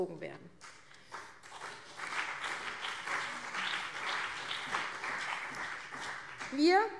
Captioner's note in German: Beifall CDU und BÜNDNIS 90/DIE GRÜNEN